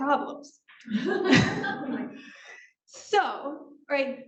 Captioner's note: laughing